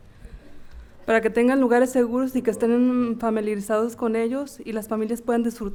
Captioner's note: speaking in foreign language